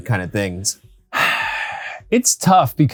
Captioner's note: sighing